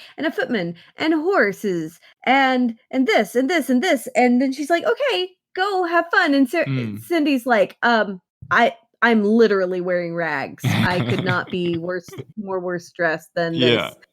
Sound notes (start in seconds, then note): 10.6 laughs